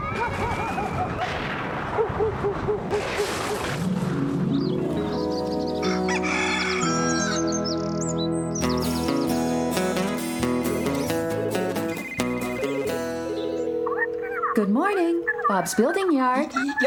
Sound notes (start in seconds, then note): 1.1 thunder Crashing; 1.9 dog Barking; 4.4 birds Singing; 5.8 rooster Crowing; 10.2 phones Ringing